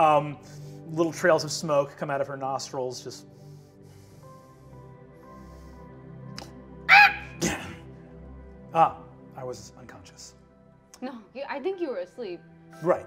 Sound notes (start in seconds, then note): 3.2 exhales; 6.9 squawks